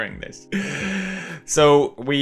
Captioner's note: inhale of pain